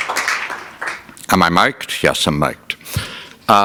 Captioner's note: applause